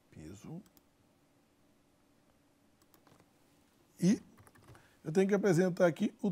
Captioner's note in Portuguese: silêncio